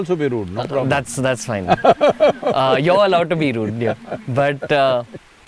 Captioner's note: Sadhguru laughs